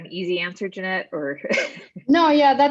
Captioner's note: laughs